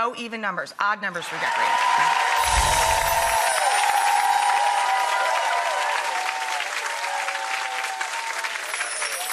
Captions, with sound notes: Yeah, no even numbers, odd numbers for decorating. (audience cheering and clapping) (bright twinkling music)